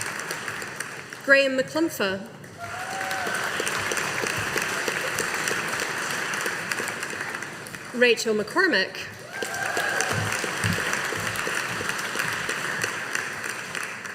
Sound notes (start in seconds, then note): 2.5 audience applauding; 9.2 audience applauding